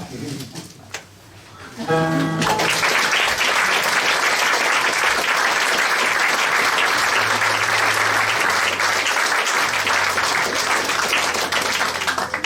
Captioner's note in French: Applaudissements